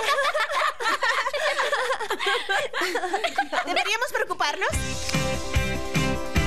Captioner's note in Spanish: todas riendo